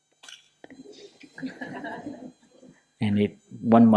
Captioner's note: laughter